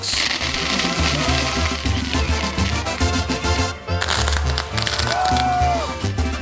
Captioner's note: fireworks crackling; upbeat band music; crowd cheering